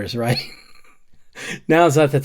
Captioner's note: laughs